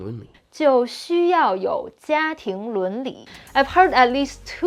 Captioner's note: speaking in Mandarin